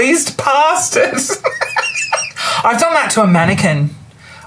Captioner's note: laughs